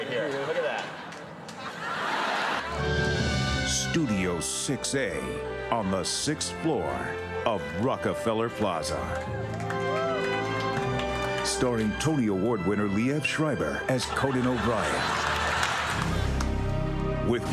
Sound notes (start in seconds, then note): 0.0 crowd laughing; 15.6 crowd laughing